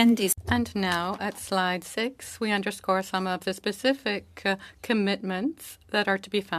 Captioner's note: speaking French